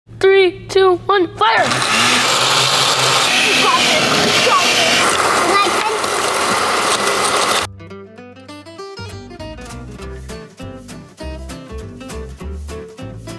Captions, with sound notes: - Three, two, one, fire! (blender roaring) (blender roaring) (blender roaring) - You got this, you got this! (blender roaring) - And I can- (calming music)